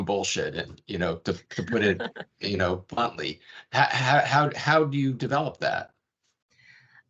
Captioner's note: laughing